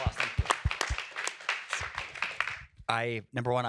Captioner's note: applause